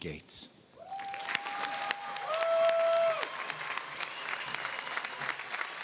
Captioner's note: audience applauding